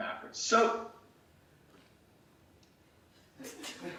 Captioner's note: laughing